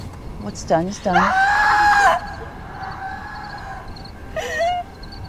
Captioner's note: Eden screams; Eden sobbing